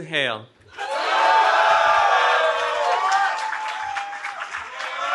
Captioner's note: cheering